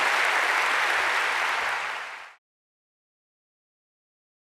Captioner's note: audience applauding